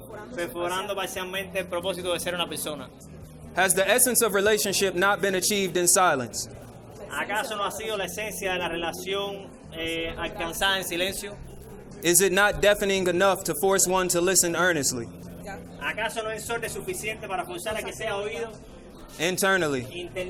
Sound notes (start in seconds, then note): 0.2 speaking in foreign language; 7.3 speaking in foreign language; 16.0 interpreter speaking in foreign language